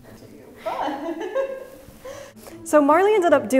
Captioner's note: laughs in pain